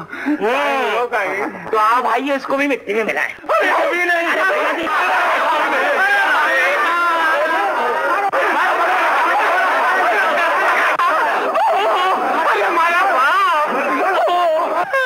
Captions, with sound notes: - Really? - Then, friends, let's consign him to dust, too. [Exclamations and pleas continue unabated.] [Shouts continue.]